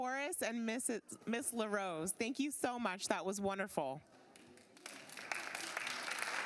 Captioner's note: applause